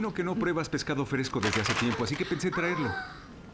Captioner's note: chicken falls